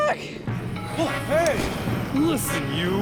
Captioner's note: gun firing